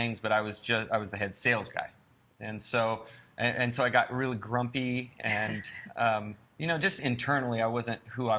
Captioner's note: laughs